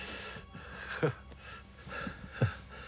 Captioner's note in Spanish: Jim se ríe